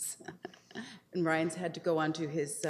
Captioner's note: laughs